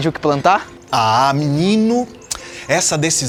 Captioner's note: mouth popping